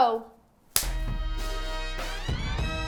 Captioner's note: handing clapping; upbeat music